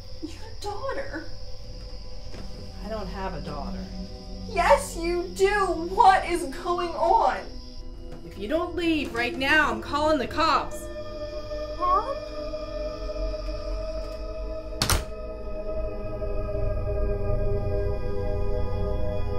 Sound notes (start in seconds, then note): 14.7 door slams; 16.3 dark music swells